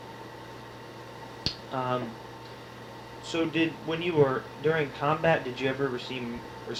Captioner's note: clicks tongue